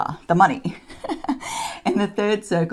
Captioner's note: chuckles